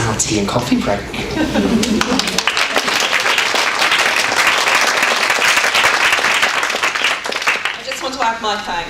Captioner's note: audience applause